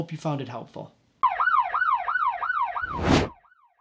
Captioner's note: sirens